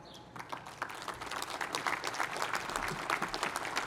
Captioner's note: applause